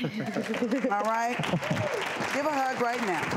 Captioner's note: audience applause